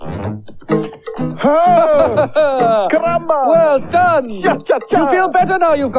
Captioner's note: Toby Laughs